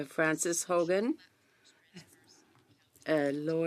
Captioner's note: speaking French